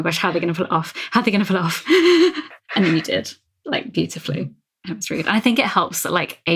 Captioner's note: breathing shakily